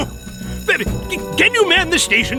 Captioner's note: stammering